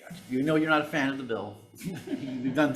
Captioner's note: attendees chuckling; chuckling